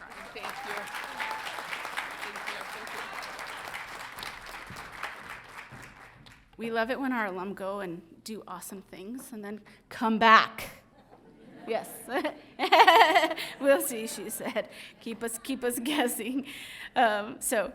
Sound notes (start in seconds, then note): 0.0 audience applauding; 11.9 audience chattering; 12.6 laughs